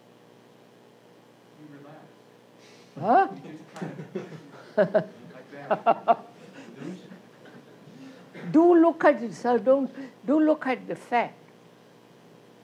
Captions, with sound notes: Q:You relax. [Laughter] Q:Illusion. K:Do look at it, sir, do look at the fact.